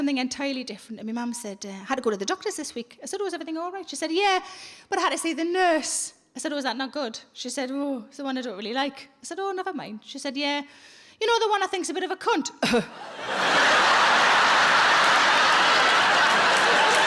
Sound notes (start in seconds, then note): 12.6 coughs weakly; 12.9 audience laughing